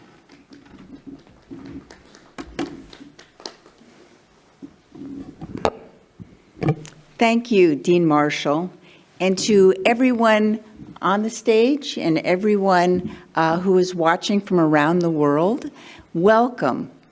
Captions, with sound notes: (clapping) - Thank you, Dean Marshall. And to everyone on the stage and everyone who is watching from around the world, welcome.